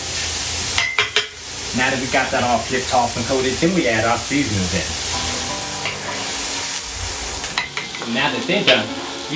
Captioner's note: tap tap tap